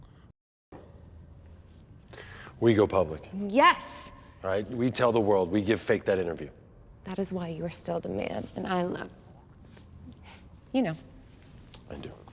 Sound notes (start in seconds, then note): none